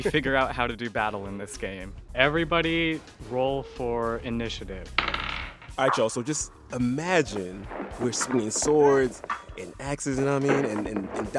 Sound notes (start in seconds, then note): 4.9 soundbite of dice rolling